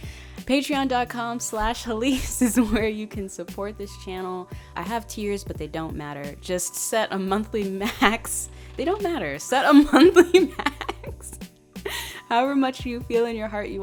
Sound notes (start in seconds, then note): 8.2 laughs